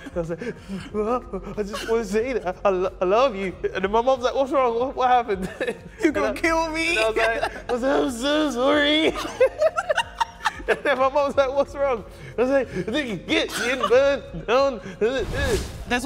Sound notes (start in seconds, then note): 0.0 pretending to sob; 9.4 both laughing; 12.1 pretending to sob